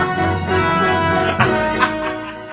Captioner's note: laughing